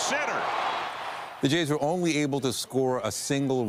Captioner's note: applause